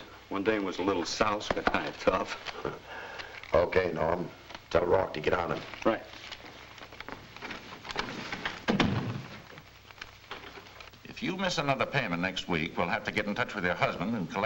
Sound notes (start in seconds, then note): 2.5 Joe chuckles; 8.6 door thuds shut